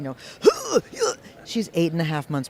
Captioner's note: combatant noises